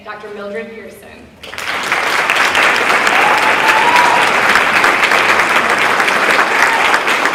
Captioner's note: applause